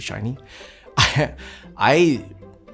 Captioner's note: laughs